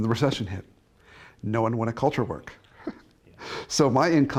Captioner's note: chuckles